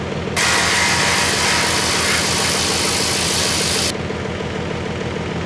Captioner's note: engine roaring